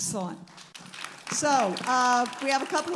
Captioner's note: audience applauding